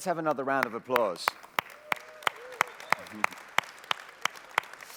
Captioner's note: applause